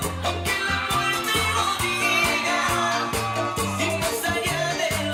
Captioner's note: audience cheering